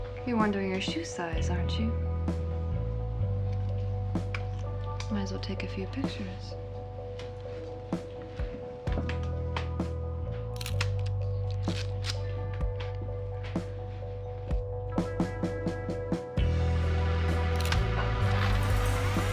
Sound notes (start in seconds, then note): 7.9 gentle upbeat music; 10.7 camera shutter clicking; 12.9 gentle upbeat music